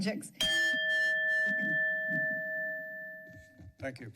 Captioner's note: bell rings